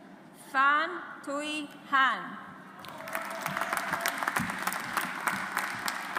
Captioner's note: audience applauds